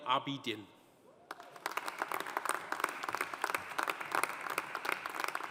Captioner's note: audience applauding